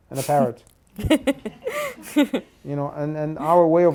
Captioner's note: participant laughs